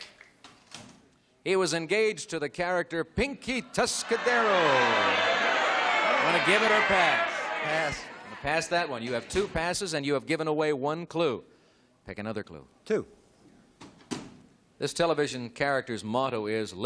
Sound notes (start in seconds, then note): 6.1 audience exclamations